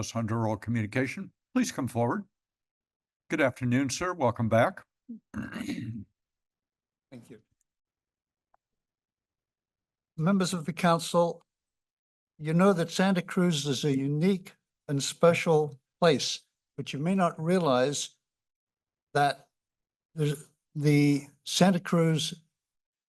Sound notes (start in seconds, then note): 5.1 clears throat; 7.8 pause